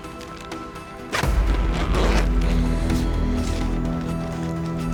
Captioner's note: sound of zipper closing